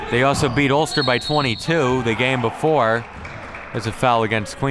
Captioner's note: whistle blowing